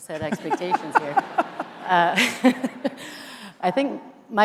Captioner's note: everyone laughing